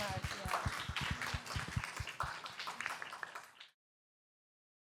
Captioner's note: applause